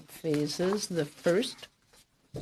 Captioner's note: speaking French